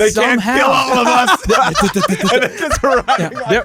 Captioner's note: laughing